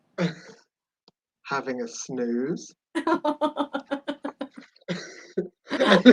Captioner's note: giggles